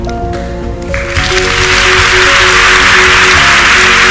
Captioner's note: applause